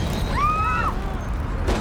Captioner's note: woman screaming